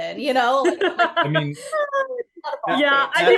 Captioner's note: laughing